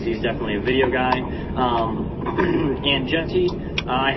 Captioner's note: clears throat